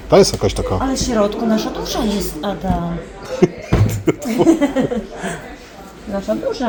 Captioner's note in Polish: śmiech